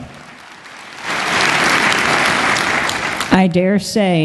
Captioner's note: applause